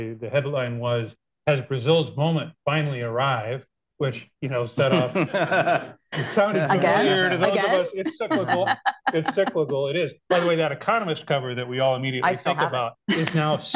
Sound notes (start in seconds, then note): 4.8 laughter; 8.3 laughs